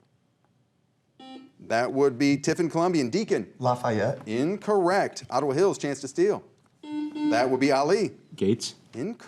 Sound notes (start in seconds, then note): 1.2 buzzer rings; 6.8 buzzer rings